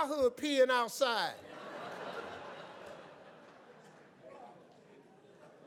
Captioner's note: laughs